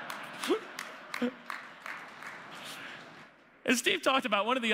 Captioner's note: applause